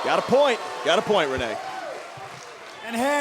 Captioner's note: cheers & boos